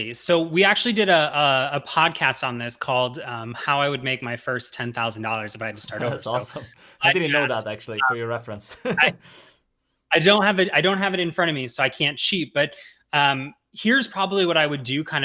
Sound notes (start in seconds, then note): 7.0 chuckles